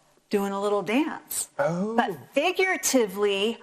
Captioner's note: sighs